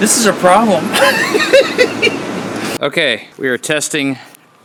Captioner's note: laughing